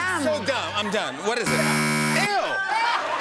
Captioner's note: buzzer; laughter and applause